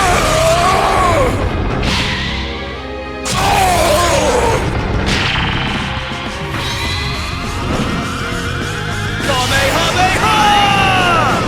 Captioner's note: shouting